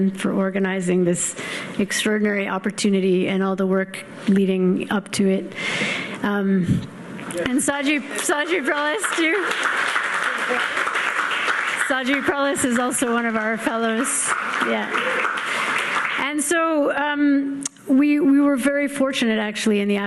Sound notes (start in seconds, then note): 9.7 audience clapping